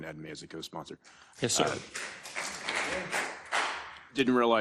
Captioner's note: applause